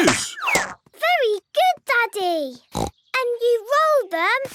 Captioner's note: snorts